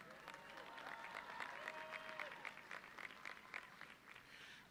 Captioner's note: audience cheering